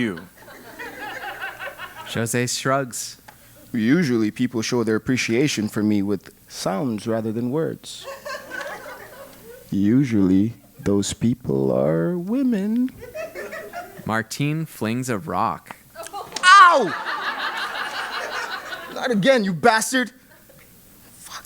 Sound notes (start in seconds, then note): 0.0 laugh; 8.4 laugh